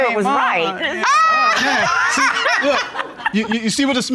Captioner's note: judge laughs